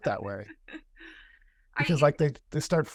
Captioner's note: laughter